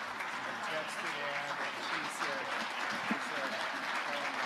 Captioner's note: speaking off mic